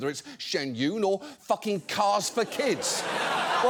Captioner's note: audience laughs